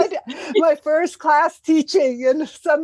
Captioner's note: laugh